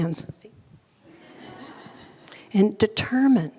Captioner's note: audience laughing